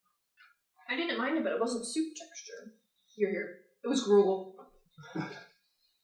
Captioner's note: chuckles